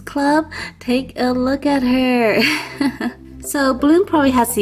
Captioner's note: laughs